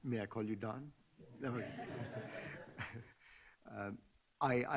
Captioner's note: laughing